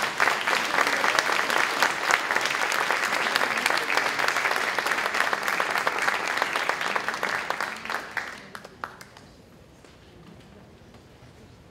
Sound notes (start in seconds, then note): 0.0 applause